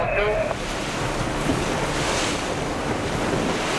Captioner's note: waves crash